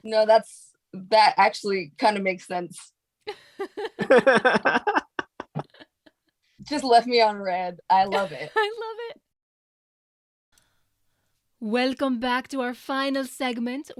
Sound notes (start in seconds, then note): 3.6 cast laughs